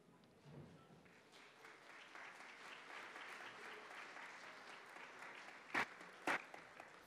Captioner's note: audience applause